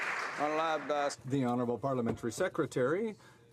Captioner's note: applause